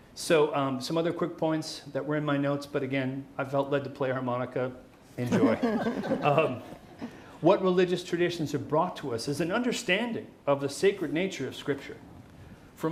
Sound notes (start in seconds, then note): 5.2 crowd laughing